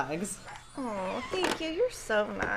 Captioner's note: Super Piggy barking